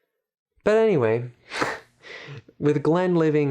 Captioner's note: laugh